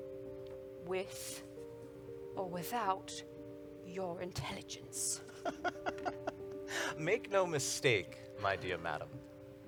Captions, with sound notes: - With or without your intelligence. - (Laughs) Make no mistake, my dear madam.